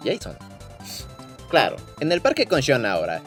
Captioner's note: inhale